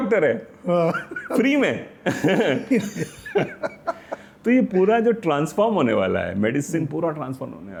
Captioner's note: laughter